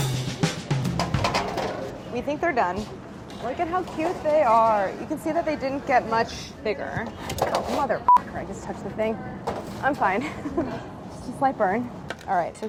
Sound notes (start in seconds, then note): 0.0 upbeat jazzy music; 8.0 beeping